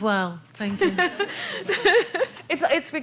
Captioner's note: laughter